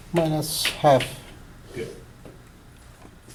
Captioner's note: voiceover